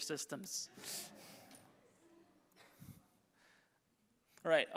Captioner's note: audience chuckles